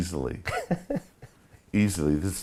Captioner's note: laughing